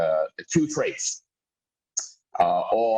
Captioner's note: murmur